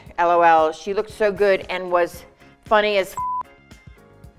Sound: beep

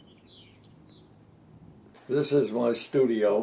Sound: birds chirping

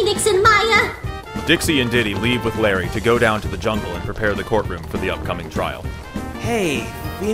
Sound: footsteps trailing off

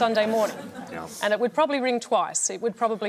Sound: chuckling

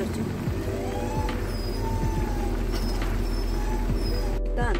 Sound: Hodu smells it and suddenly starts whining

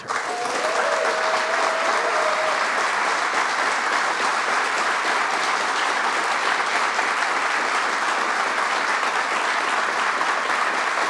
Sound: cheers & applause

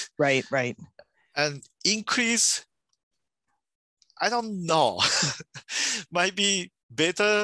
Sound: laughs

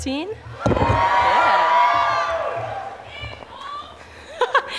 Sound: audience cheers

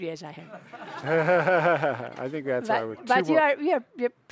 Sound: audience chuckles

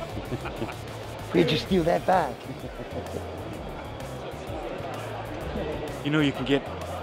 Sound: chuckling

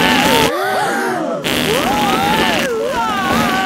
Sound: both screaming; crowd gasps; screaming

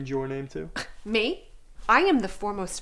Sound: scoffs

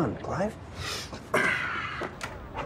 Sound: sighs

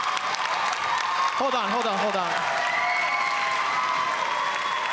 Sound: applause

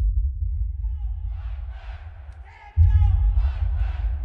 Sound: chanting

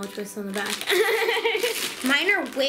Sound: laughs

